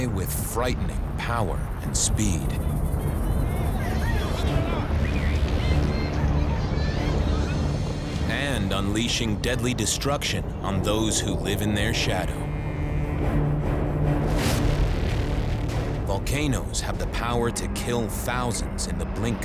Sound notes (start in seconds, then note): 3.8 people shouting